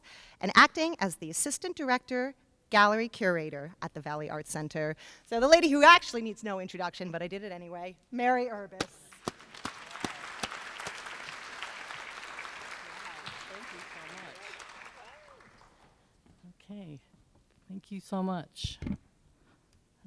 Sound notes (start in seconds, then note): 8.9 applause